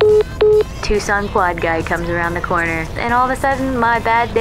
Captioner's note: phone message beeping